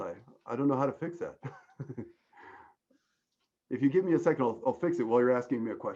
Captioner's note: chuckling